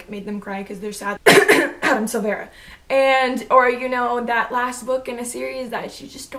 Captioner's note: cough cough